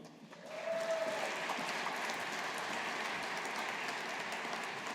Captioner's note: audience applauding